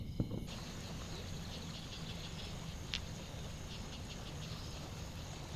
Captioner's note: water gurgles from the stream